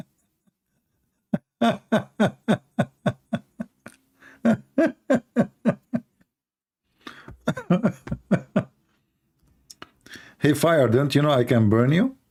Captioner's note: Ketawa